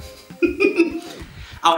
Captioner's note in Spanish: se ríe